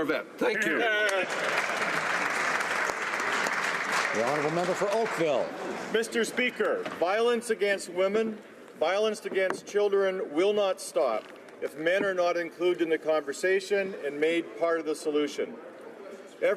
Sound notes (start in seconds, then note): 4.6 some Applause